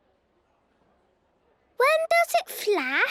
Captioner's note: silence